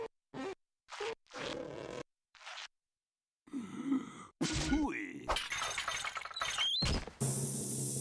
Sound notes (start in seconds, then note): 3.4 inhaling